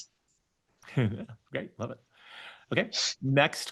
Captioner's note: laughs